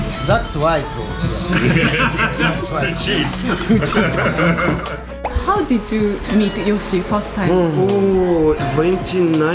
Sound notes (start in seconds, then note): 4.6 laughs